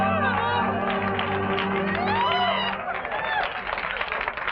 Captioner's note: cheering and applause